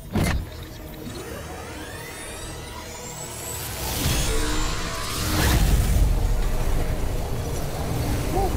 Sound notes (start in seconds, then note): 2.1 power whirring